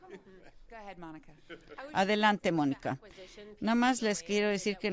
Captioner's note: laughter